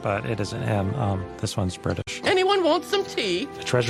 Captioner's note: Engnglish accent